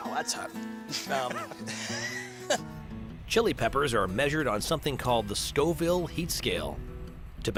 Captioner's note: laughs